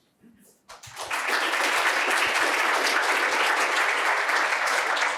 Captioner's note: applause